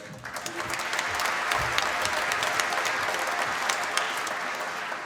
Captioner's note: applause